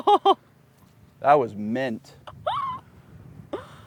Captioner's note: laughs